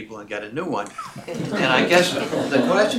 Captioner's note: laughter